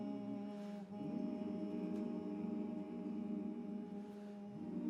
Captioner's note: humming